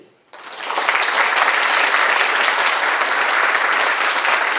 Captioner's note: audience applauding